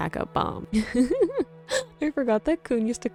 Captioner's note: giggling